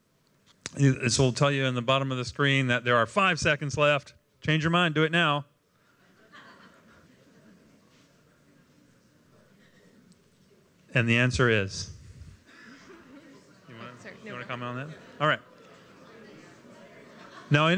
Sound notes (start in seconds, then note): 7.4 laughter